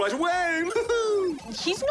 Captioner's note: laughs